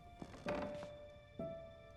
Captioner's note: floor creaks; footsteps